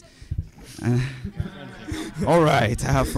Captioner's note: chuckles